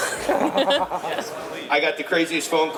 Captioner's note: laughs